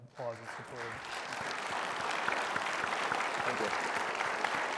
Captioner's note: everybody applauds